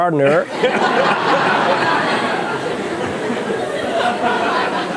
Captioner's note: laughter